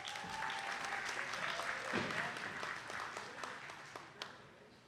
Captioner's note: attendees clapping